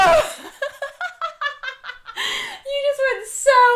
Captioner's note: laughing